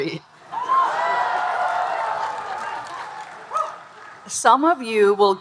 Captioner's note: audience cheering and applauding